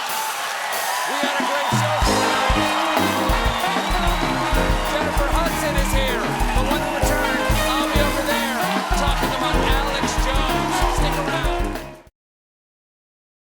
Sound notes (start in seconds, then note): 1.8 cheers and applause; 4.9 band playing